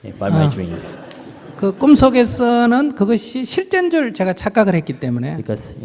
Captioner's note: audience Laughter